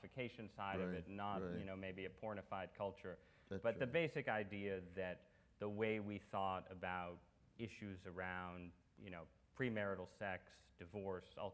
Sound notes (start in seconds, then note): none